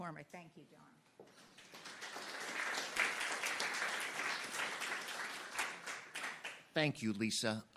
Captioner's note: applause